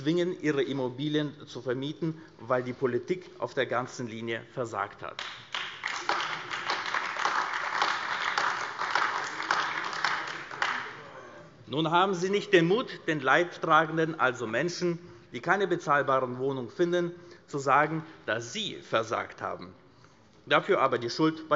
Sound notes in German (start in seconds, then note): 5.2 Beifall